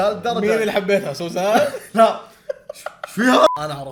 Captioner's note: laughs